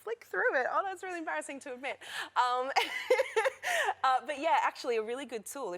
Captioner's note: laughter